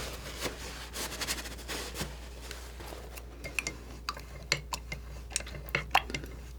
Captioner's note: scratching